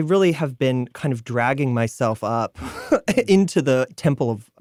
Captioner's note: chuckling